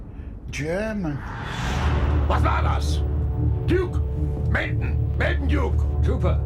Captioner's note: speaking in foreign language